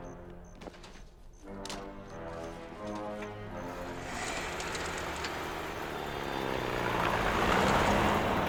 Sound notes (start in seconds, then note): 3.2 jeep rumbling